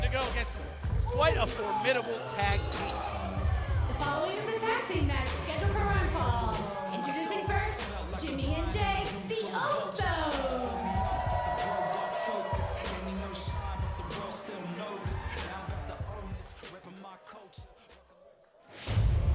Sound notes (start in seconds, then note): 2.0 bell ringing; 10.1 crowd cheering